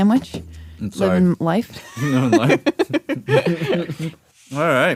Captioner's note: laughs